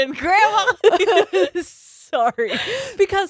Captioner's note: all laughing